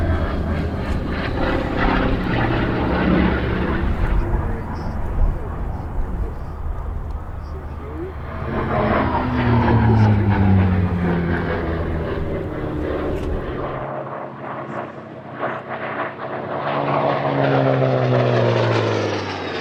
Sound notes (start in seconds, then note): 1.9 engine roaring